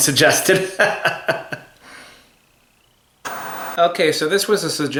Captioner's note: laughs